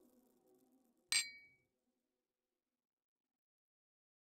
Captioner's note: clinking